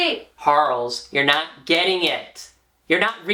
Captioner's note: clapping in time